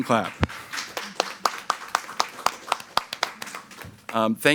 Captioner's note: people clapping